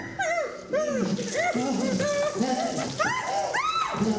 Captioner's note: water splashing